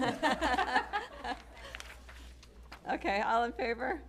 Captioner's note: laughter